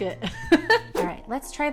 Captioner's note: laughs